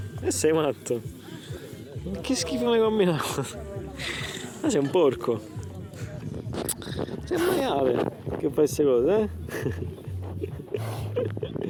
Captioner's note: laughter